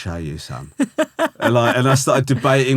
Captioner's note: laughing